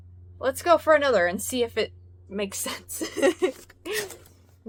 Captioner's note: laughs